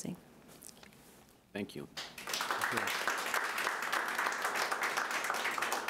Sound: audience applauding

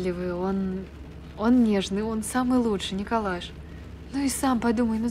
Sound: rain falls

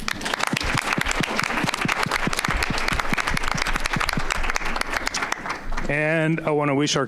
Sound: audience applauding

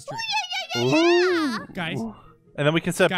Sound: Unicorn grunts in affirmation

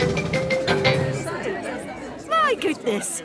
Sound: all murmuring

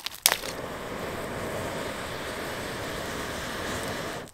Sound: fire roaring

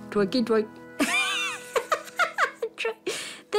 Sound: laughs

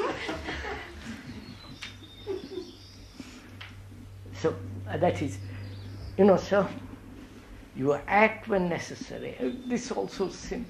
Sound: laughter

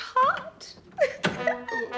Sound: sobs

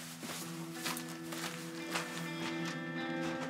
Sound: footsteps in dirt

